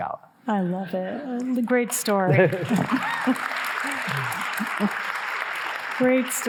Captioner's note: audience applauding